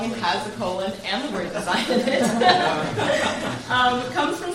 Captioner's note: laughs loudly